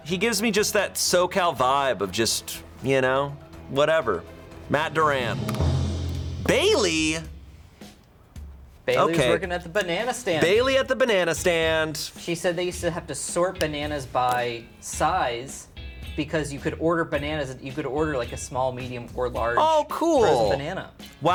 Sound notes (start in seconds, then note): 4.2 tense music building; 5.6 button clicks